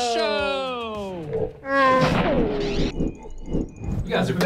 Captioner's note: sound effects